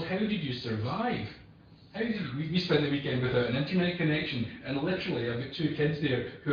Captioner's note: audio distorts